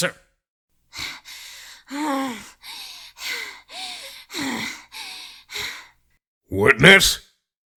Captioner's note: rapid, angry, breathing